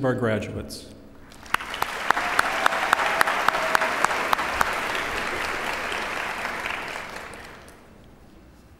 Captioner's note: applause